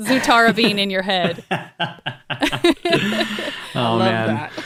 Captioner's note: laughing